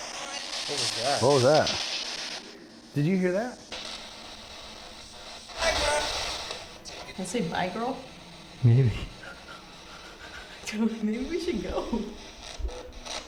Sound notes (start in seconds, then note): 4.1 spirit box scanning; 5.6 spirit box voice; 8.1 heavy breathing